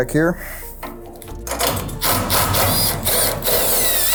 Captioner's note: drill buzzing